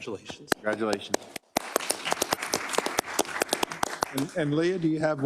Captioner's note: applause